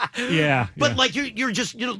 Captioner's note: laughing